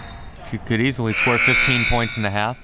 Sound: whistle; buzzer

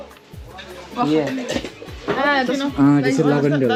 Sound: foreign language

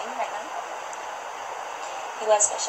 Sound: background ocean sounds

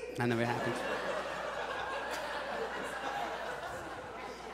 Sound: audience laughs

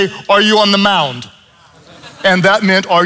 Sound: congregation laughs

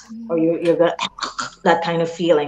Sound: chucking

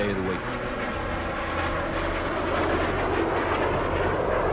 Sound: plane roaring

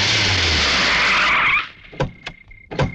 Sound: brakes squeal

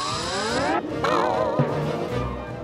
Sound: rope boings

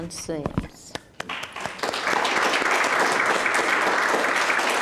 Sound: applauding

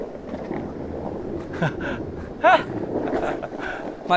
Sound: laughing

